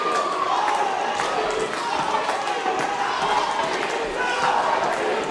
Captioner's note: crowd cheering and clapping; cheering and clapping continues; crowd